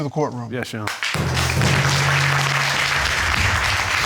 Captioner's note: audience applauding